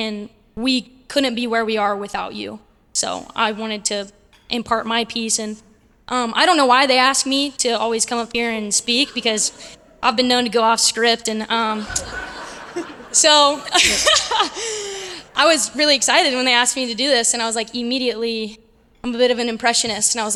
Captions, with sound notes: And we couldn't be where we are without you. So I wanted to impart my piece. And I don't know why they ask me to always come up here and speak because I've been known to go off script. And so, [LAUGH] I was really excited when they asked me to do this. And I was like, immediately, I'm a bit of an impressionist.